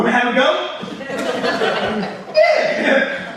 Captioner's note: audience laughs